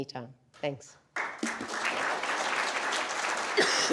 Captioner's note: applause